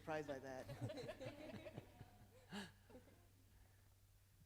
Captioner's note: laughing